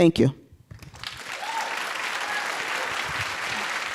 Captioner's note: applause and cheering